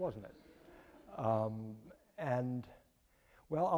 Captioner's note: audience laughing